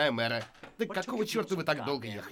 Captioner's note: bottle sets down